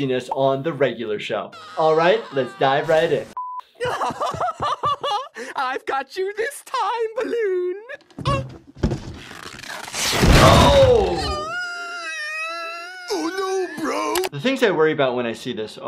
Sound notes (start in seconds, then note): 3.8 Pops laughing; 8.2 light thuds; 10.4 Pops groans